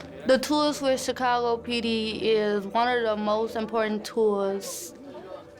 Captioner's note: crowd clapping